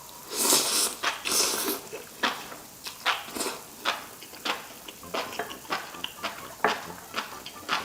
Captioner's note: the sound of biting mushrooms😅❤